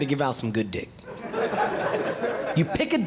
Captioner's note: audience laughing